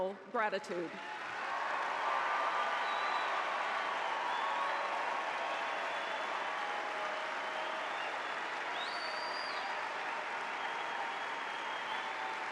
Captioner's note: applause